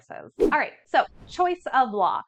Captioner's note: air whooshing